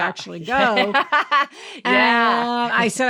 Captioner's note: laughing